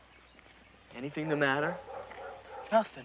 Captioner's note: dog barking